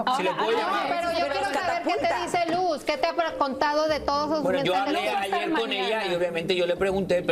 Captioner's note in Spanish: risas